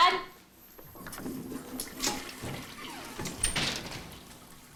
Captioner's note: toilet flushes